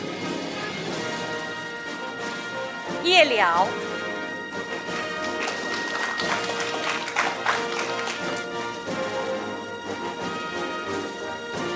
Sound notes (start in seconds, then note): 4.5 audience applauding; 8.7 orchestral music